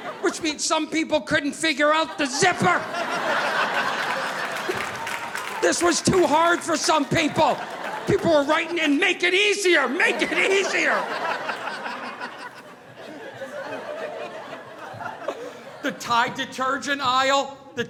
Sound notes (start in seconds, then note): 3.1 audience laughing